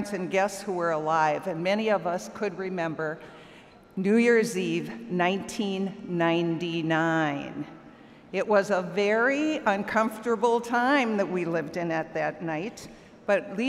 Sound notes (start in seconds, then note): none